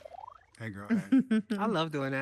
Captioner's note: panelist chuckling